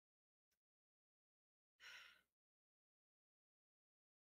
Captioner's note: sighs